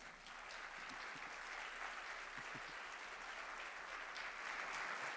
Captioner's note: audience applauds